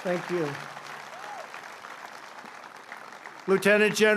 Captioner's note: applause